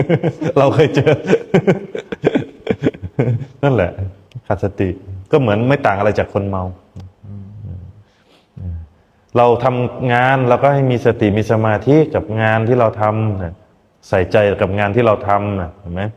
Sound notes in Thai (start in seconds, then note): 0.0 เสียงหัวเราะ